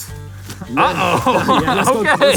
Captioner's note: laughs